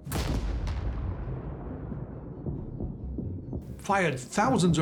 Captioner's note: explosion booms